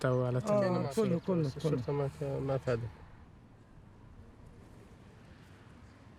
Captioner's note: speaking foreign language